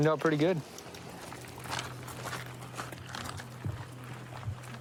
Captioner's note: footsteps crunching